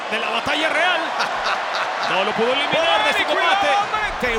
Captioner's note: laugh